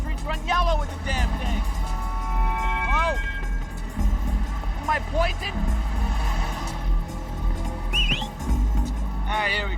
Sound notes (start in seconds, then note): 2.6 horn honking; 7.9 Dwayne whistles